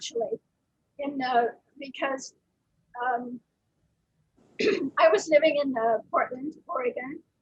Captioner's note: clears throat